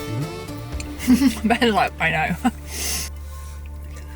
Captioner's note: laughing